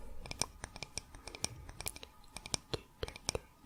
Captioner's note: tapping on stone